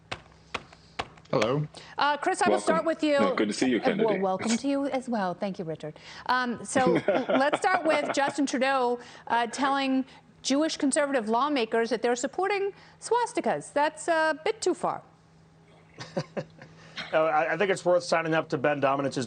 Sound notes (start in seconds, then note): 15.9 laughter